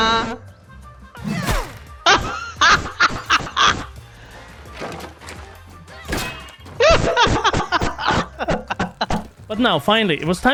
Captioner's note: laughter